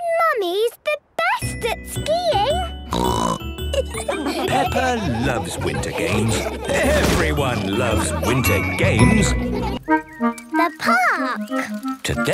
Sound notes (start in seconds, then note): 2.9 snorting; 3.6 laughter